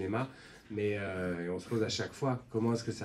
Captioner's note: none